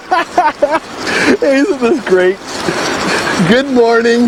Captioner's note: laughing